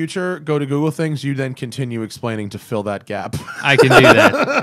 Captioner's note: laughter